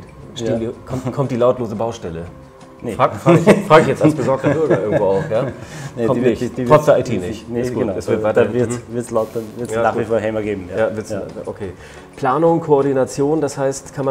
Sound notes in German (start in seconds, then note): 3.2 lacht